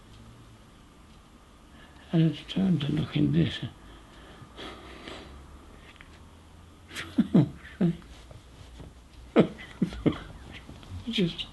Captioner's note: laughs